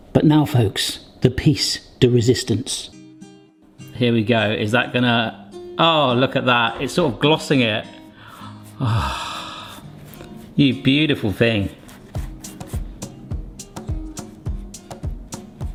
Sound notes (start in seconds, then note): 8.2 sighs longingly; 12.5 light upbeat music